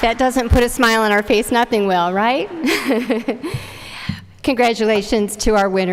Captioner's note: chuckling